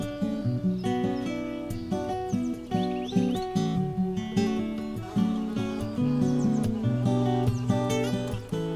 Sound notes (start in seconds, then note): 5.5 bees buzzing